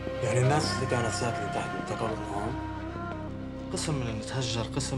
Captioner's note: men speak arabic